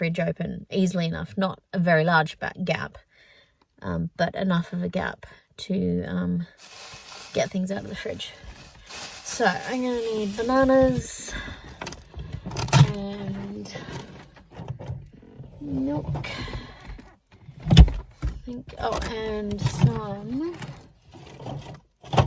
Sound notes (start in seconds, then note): 6.6 bag rustles again; 11.3 bag rustles more; 14.6 velcro; 16.8 lid shuts; 20.0 clunking inside fridge